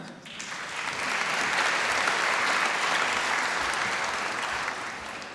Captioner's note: applause